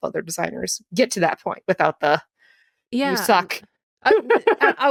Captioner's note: giggles